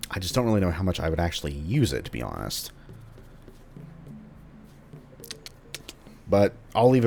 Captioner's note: thinking sounds